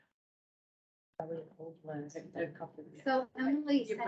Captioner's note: indistinct chatter